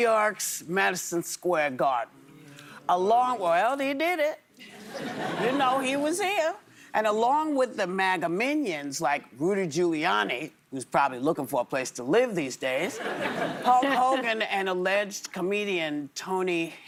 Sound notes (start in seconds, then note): 6.8 laughter